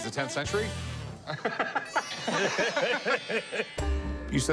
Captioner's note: laughter